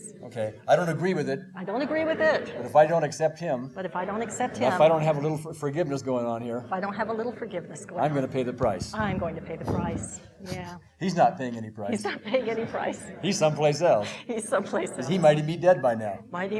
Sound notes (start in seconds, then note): 12.9 laughing